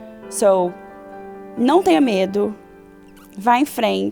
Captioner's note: speaks portuguese